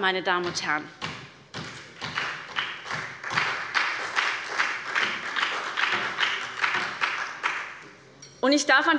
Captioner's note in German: Beifall bei der SPD